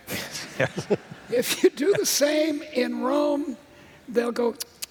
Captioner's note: laughter